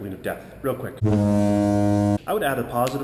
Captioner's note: foghorn blares